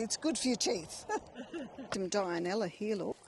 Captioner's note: laughing